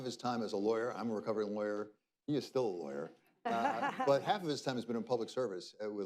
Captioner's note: laughter